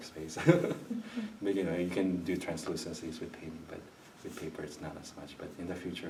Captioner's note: laughs